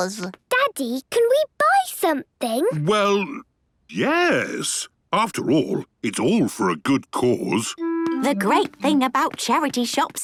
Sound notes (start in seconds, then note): none